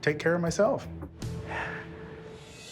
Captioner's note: sighs